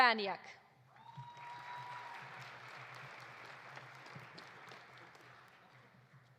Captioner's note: audience cheering; audience applauding